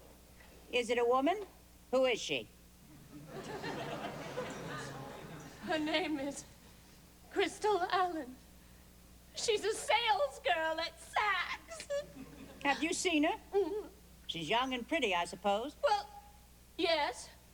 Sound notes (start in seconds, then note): 2.9 laughter; 11.6 sobs